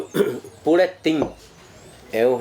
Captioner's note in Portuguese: pássaros cantando